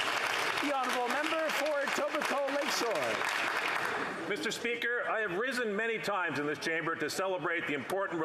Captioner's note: some Applause